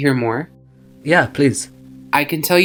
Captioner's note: voiceover